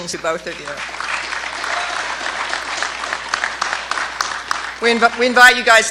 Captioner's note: clapping